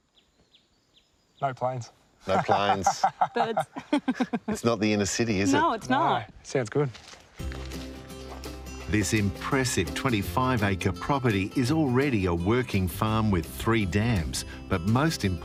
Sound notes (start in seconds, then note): 0.0 birds chirping; 2.2 laughs